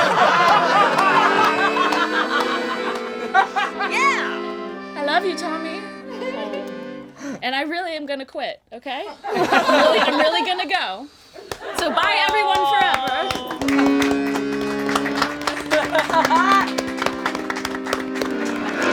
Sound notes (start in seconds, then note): 0.0 all laugh; 0.0 plays accordion; 11.4 all laugh; 12.6 plays accordion; 13.7 all applaud